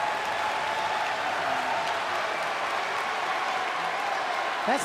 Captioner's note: crowd cheering